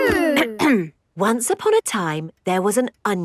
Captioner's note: clears throat